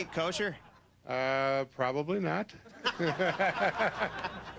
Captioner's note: laughs